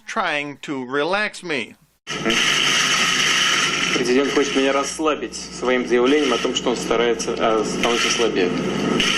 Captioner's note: Putin talks in Russian